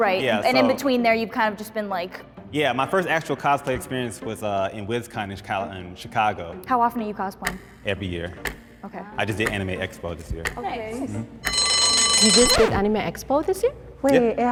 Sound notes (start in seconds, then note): 11.4 timer chimes; 12.2 record skips